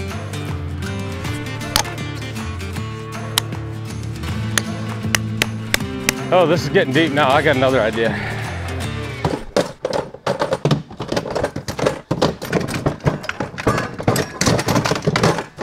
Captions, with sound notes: (axe chopping) Oh, this is getting deep now I got another idea. (loud clanking noise)